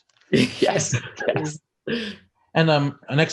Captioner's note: participants laugh